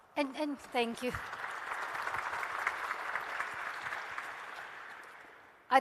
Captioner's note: audience applauding